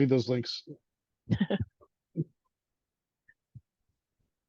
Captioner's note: laughter